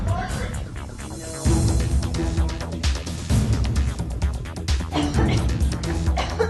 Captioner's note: Eileen choking